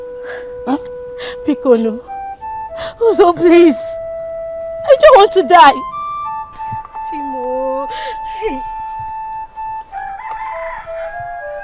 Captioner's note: gasps